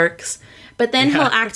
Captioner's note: laughs